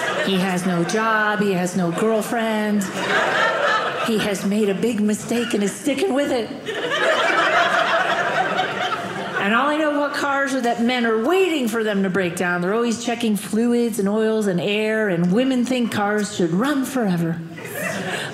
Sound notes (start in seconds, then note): 6.4 audience laughing